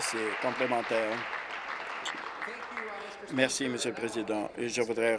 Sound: applause

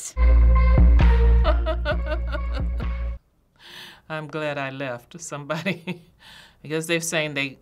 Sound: chuckles

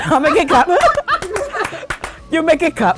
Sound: claps

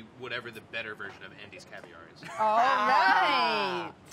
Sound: laughs

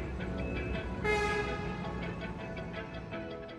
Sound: car horn beeping; soft music

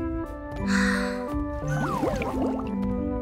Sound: soft yawning; water bubbling

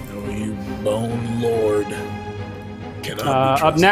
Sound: wolf mumbles

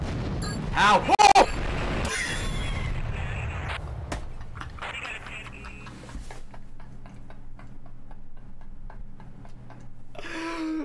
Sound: laughs

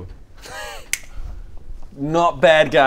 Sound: impressed click

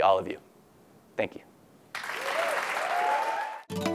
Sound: applause

